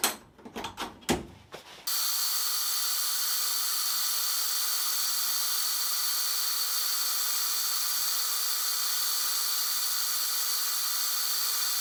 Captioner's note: working sound